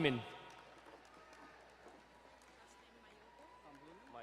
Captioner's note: distant cheering